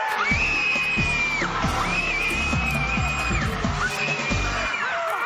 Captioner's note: screams